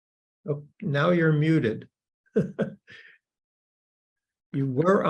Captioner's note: laughs